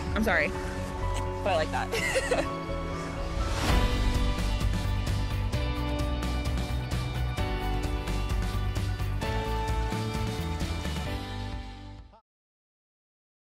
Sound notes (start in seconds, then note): 1.9 laughing; 3.8 upbeat music